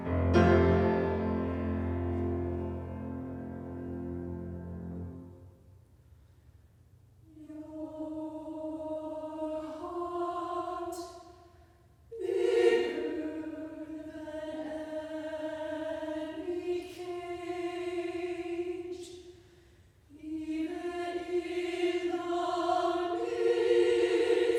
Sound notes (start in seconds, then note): 0.1 chord sustains; 4.9 silence; 7.8 very quiet, in unison